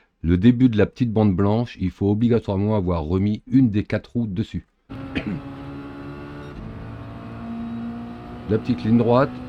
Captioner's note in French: raclement de gorge